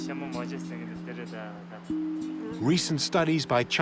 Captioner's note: speaking Tibetan